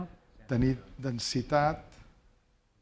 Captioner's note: spanish; speaking spanish